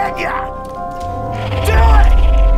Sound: snarling

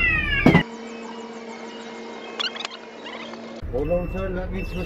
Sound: sped up sounds

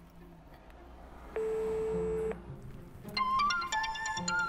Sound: outgoing call tone; ringing cell phone

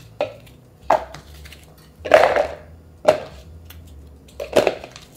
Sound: veggies rattling

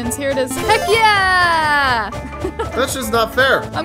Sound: positive sound

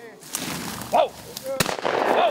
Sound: gunshots; bird calls

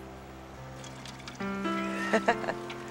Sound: giggling

